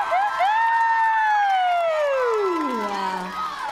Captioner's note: applause